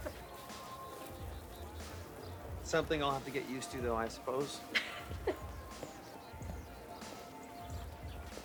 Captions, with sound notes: SOMETHING I'LL HAVE TO GET USED TO, THOUGH, I SUPPOSE. [LAUGHS]